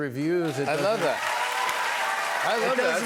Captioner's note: cheers and applause